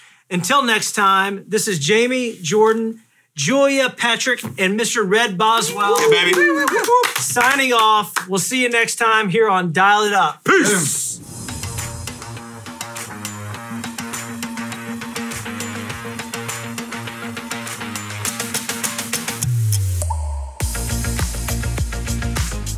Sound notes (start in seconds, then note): 5.6 all cheering; 10.6 upbeat Music